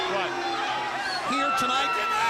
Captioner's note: crowd chatter